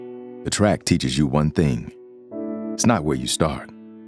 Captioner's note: voiceover